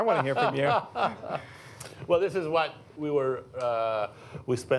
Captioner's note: laughs